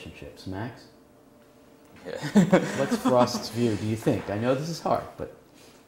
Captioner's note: laugh